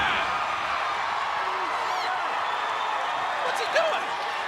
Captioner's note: crowd cheering